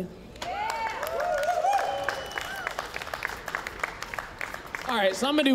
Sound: applause, cheering

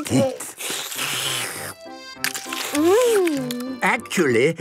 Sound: slurping

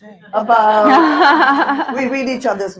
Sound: audience laughing

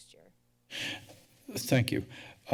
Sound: breaths deeply

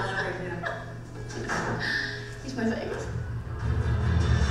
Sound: voiceover; laughing

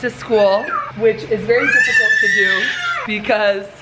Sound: screaming

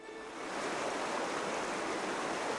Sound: rushing water

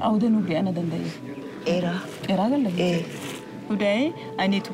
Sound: speaking foreign language; both speaking foreign language

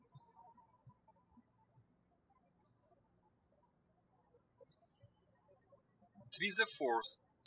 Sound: birds chirping

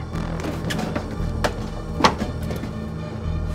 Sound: toaster oven banging; suspenseful music

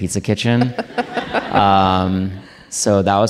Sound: audience laughing

